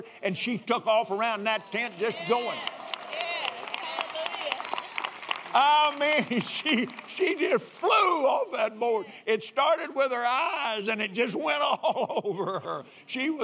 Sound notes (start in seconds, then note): 1.8 applauds